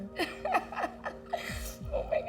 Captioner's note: laughs